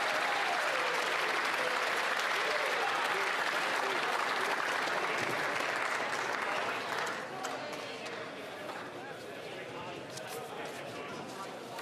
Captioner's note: applause